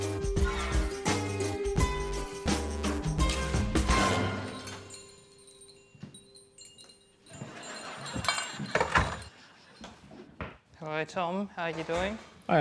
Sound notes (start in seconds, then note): 3.0 bells jangle